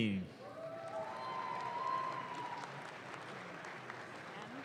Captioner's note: audience claps